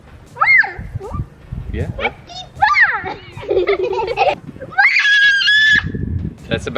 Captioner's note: Ewok sounds by adorable children